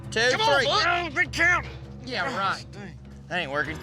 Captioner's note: all grunting